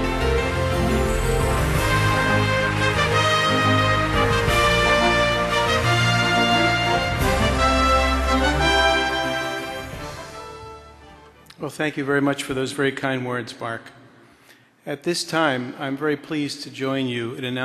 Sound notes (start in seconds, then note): 0.8 applause; 0.8 triumphant orchestra music